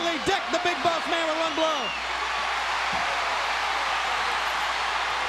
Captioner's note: crowd cheering